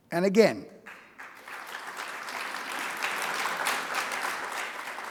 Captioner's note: audience applauding